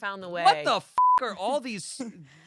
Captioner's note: beep